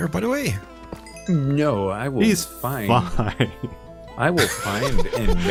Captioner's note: laughs